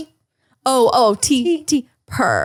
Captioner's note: purring